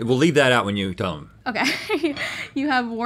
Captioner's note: laughs